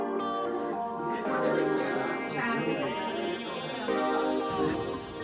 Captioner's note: indistinct chatter